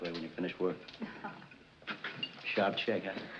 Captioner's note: chuckles